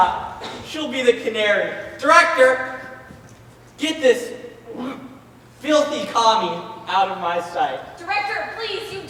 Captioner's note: gags